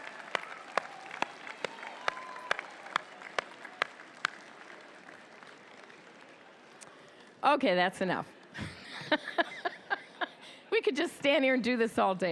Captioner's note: applause